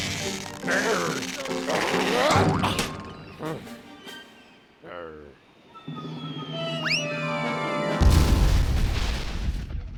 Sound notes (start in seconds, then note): 0.0 straining; 3.4 sighs; 6.0 object whistling through air